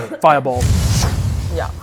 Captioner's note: whoosh